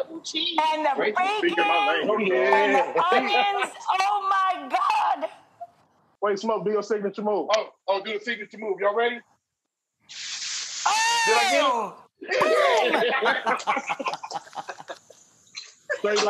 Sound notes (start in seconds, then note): 10.0 sizzling; 12.3 laughing